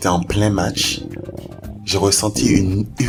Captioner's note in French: Gargouillements d'estomac